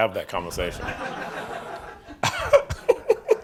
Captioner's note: reporters laughing; laughing